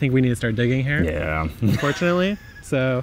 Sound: laughs

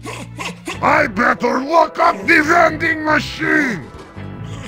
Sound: TF2 Heavy Voice

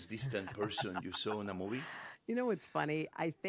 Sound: Hoda laughs

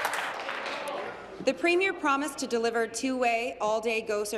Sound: applause

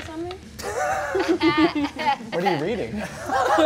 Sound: all laugh

